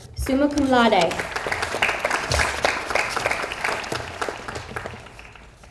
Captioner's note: audience applauds